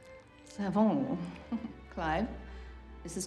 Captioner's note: chuckles